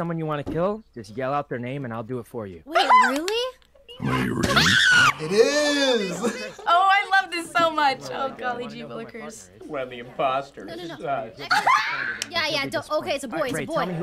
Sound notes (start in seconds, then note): 4.4 screams; 11.4 laughs